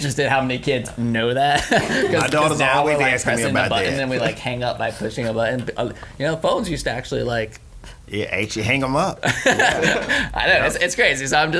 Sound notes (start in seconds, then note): 9.2 laughing